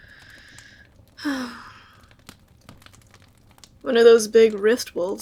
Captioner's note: sigh